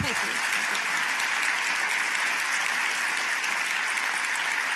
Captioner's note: applause